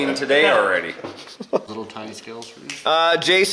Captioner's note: laughing